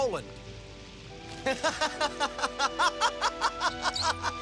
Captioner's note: laughs